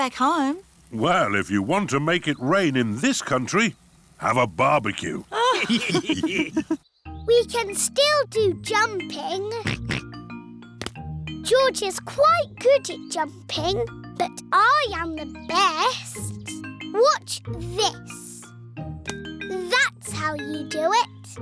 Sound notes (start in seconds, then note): 5.3 all laughing; 9.6 oinks